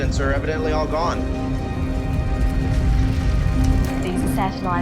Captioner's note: crackling fire